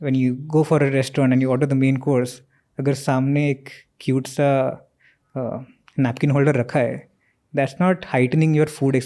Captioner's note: speaks in Hindi